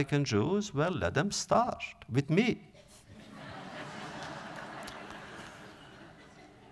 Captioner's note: audience laughter